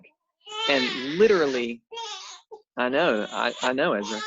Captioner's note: baby crying